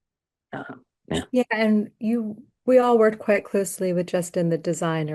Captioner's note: clears throat